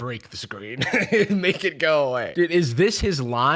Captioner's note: laughs